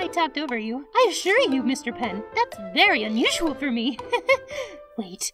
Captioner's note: laughs